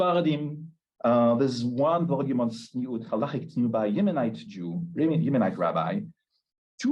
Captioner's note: Hebrew